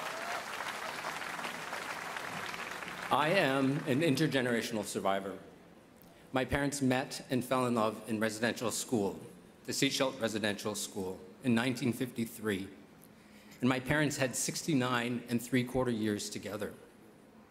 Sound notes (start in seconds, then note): 0.0 speaking French; 2.9 cheers and Applause